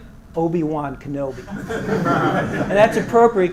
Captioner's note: laugh